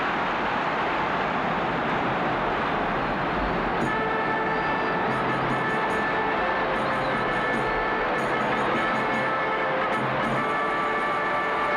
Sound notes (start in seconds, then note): 5.9 tumultuous cheering